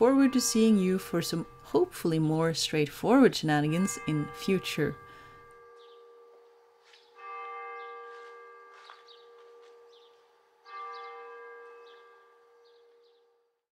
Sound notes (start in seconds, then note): 7.0 The bell of Nidarosdomen tolls the hour in the background